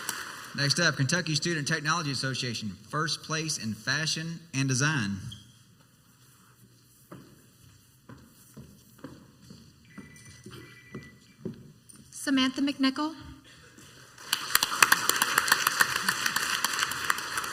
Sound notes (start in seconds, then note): 7.4 high heeled footsteps walking onto the stage; 9.8 phone ringtone in the background; 14.0 crowd applauds